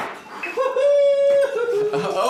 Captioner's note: popping cork